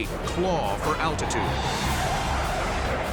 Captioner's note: jet engine noises